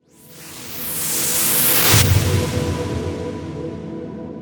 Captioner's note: whooshing